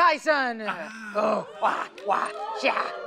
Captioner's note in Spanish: Imita gruñidos